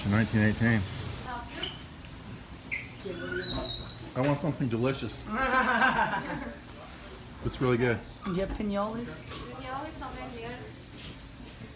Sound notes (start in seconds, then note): 5.2 clerk laughs